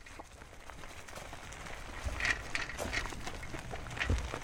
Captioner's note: gravel crunching